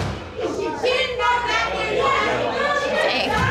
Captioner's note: shouting